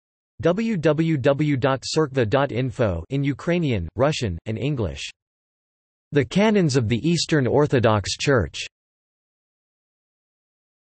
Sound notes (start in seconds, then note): 3.3 in Ukrainian, Russian, and English